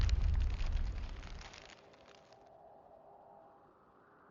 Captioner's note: wind howling